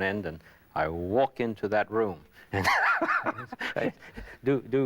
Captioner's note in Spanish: Risas